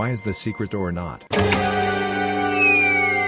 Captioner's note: door dramatically opens